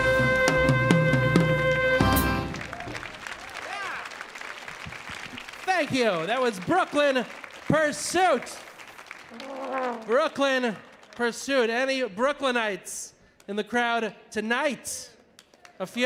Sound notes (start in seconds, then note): 3.2 audience applauding